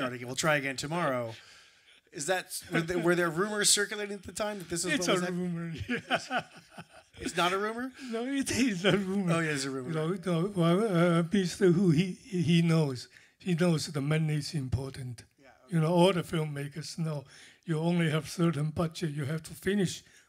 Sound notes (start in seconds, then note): 5.7 laughter